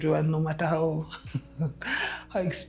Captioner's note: laughing